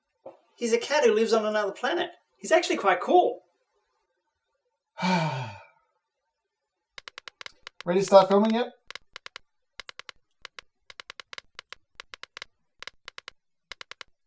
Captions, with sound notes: He's a cat who lives on another planet. He's actually quite cool! [Sully sighs] [Hulio tapping at keyboard] Ready to start filming yet? [Tapping away at keyboard]